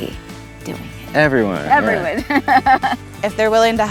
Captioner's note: chuckles